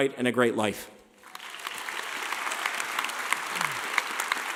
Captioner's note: clapping